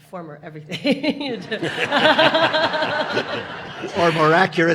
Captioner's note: audience laughing